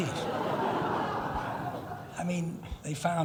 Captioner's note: laughing